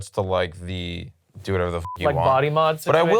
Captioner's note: beep